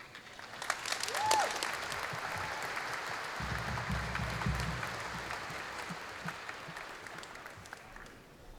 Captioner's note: applause